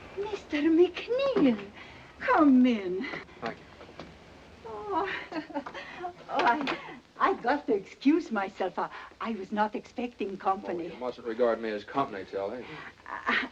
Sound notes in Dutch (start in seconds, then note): 4.7 lacht